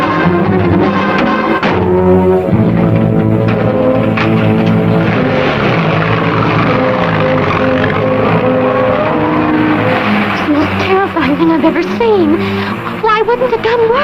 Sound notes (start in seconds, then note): 3.5 frantic music; 6.0 car revving; 6.0 door slams